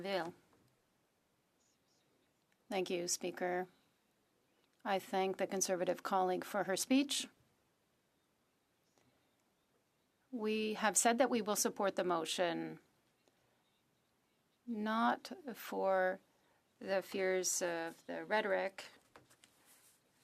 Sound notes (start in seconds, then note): 2.0 speaking French